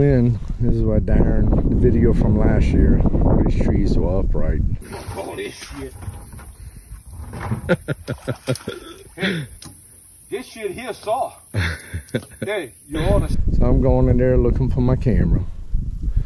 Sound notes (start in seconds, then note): 5.3 swearing; 7.5 laughing